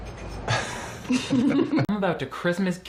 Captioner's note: both chuckling